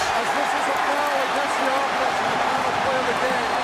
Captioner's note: crowd cheering, muffled announcment